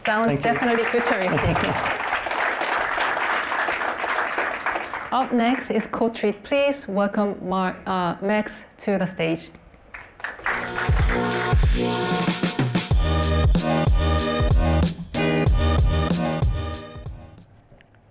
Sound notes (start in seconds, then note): 2.6 applause